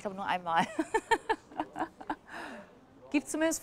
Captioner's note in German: sie lacht